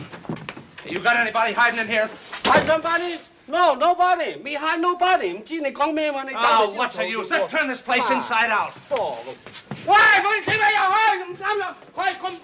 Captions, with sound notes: Hey, you got anybody hiding in here? Hide somebody? No, nobody. Me hide nobody. (speaking in Chinese) Oh, what's the use? Let's turn this place inside out. (yelling in Chinese)